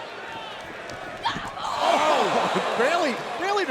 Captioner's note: wrestlers shout